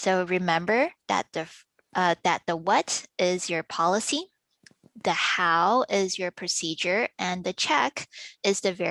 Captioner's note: click